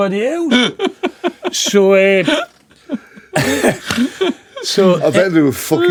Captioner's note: laughing